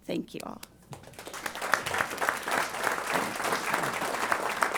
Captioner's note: applause